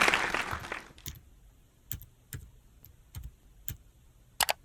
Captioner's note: computer keyboard clacking; computer mouse clicks